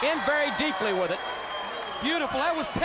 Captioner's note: crowd cheering